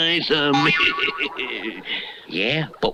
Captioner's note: Simon Bar Sinister Laughs